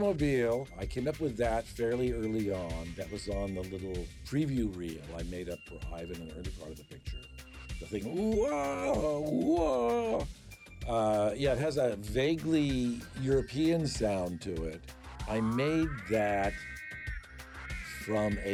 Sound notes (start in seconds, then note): 9.6 imitating klaxon sound